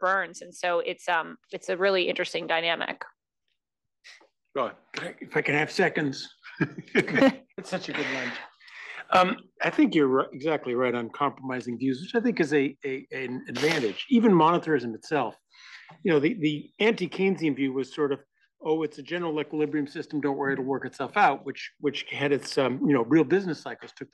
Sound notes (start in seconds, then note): 6.2 laugh